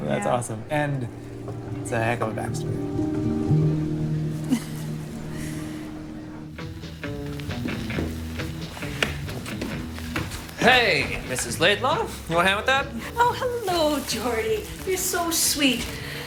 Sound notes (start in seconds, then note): 3.9 piano music ends; 7.1 footsteps; 8.2 crackling vinyl